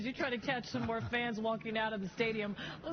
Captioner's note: laughter